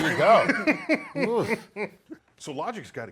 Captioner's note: laughs